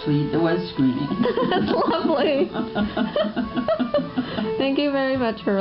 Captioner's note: giggles all around